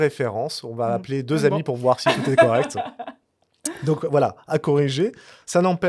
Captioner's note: laughter